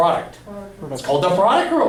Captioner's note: voiceover